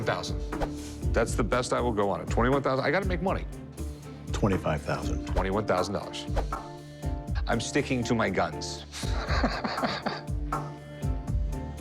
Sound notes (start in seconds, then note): 9.0 tense music plays; 9.1 laughs